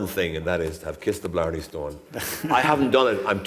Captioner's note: laughter